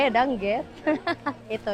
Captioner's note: laughs